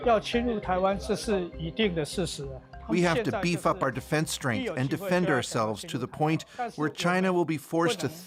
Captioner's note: speaking alternate language